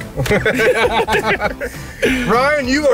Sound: laughing

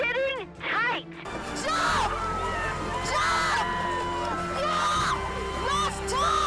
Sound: shouting

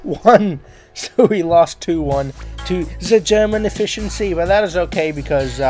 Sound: in an attempted German Accent

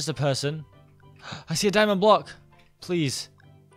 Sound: gasps

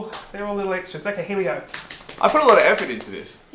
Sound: Christian clapping

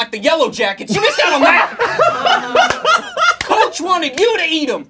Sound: laughing

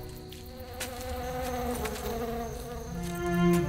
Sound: bees buzzing

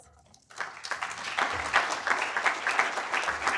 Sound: applause

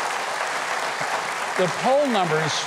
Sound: audience cheering

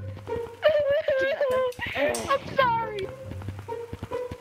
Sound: crying

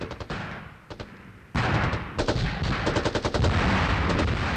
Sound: gunfire

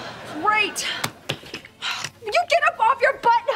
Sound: sighing

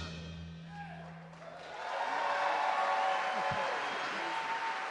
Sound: audience cheer and clap

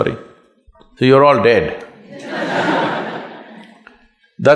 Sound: laughter

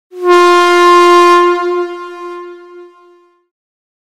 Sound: horn honking

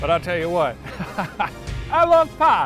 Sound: laughs

